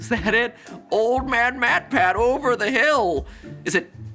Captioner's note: imitation of an old man